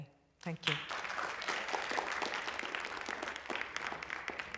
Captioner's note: applause